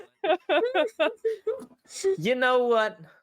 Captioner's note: players laughing